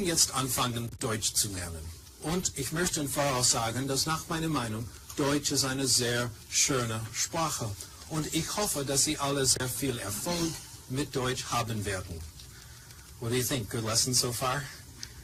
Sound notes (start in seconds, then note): 10.1 speaking in German